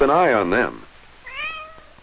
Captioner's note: cat meows